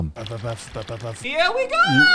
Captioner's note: beatboxing